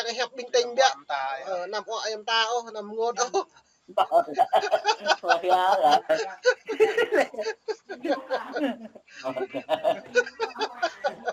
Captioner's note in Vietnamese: Tiếng cười